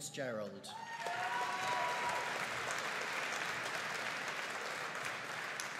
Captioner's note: audience cheering and applauding